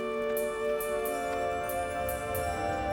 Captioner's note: rumbling